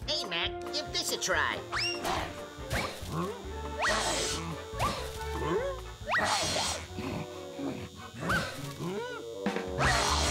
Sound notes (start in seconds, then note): 1.8 playful music; 2.9 Gossamer grunting; 4.0 shaver buzzing; 6.5 playful music; 10.1 shaver buzzes